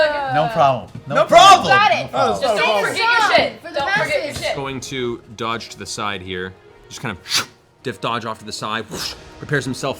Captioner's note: whoosh